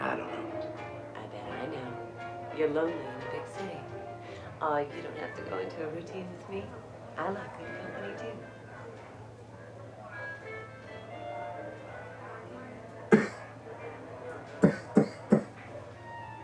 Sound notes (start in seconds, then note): 9.3 soft jazz music; 11.4 crowd chattering; 14.6 Richard coughing